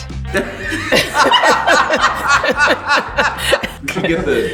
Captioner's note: laughing